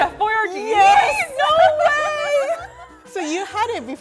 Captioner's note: laughs